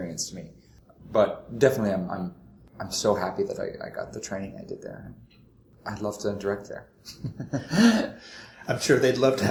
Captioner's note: laughs